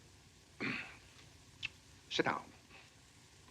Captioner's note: clears throat